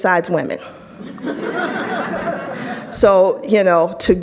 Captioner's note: audience laughs